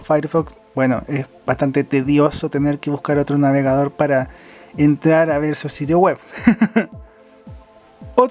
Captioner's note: laughs